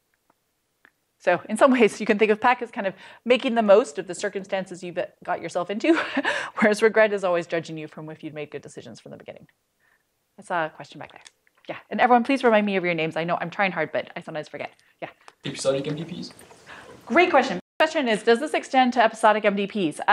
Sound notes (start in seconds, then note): 5.9 laughter